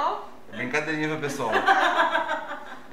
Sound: laughs

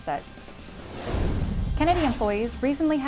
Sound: transition sound/music

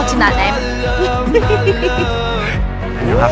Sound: laughing

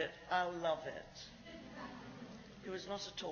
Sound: laughs

